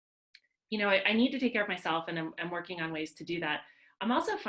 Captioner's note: none